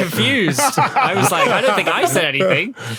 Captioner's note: group laughing